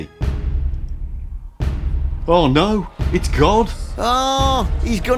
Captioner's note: loud knock at the door